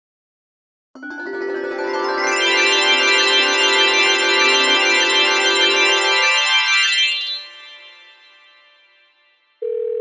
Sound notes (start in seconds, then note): 1.5 twinkling sounds